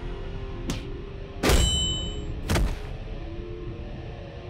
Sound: slamming sound

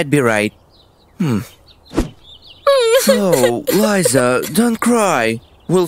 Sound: crying

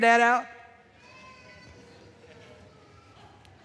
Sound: congregation murmurs

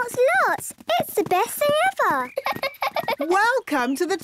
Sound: squeaks; giggles

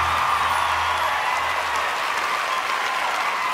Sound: crowd cheers

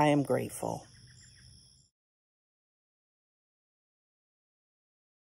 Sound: bird chirping

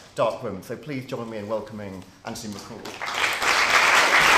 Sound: clapping

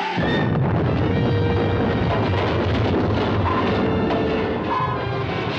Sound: explosions

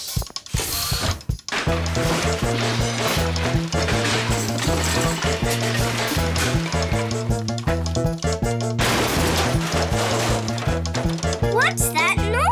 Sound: crashing noises

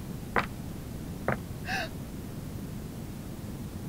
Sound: slower Footsteps; Lisa Gasps

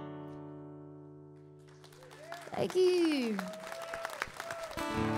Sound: audience cheering; guitar strumming

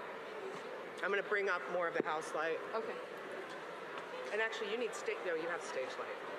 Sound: audience indistinct chatters

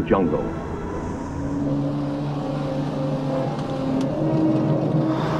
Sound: tank engine revving

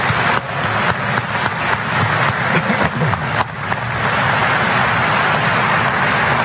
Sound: applause

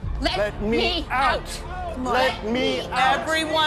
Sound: people yelling

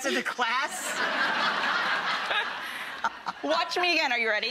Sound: laughter

